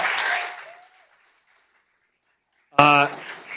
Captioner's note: applause